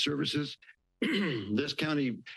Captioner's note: clears throat